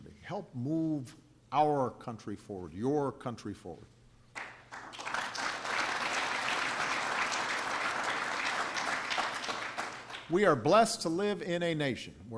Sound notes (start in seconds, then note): 4.3 applause